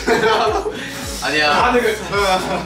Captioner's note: nervous laughter